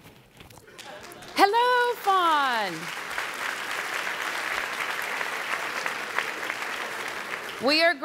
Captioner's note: applause